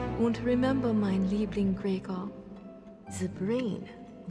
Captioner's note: speaks foreign language